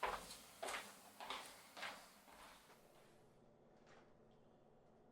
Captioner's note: footsteps recede